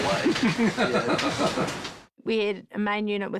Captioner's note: jackson laughs